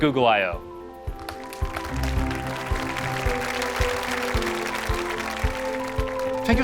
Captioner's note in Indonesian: Tepuk tangan